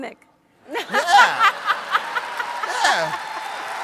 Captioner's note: audience laughs